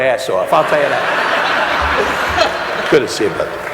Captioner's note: audience laughing